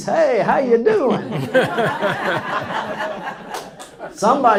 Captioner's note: laughs